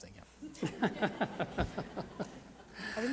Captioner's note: laughs